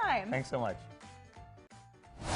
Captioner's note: logo whooshes